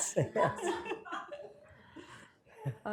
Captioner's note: laughter